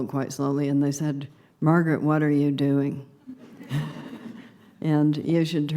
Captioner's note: muted laughter